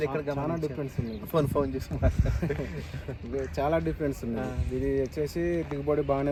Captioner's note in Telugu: నవ్వు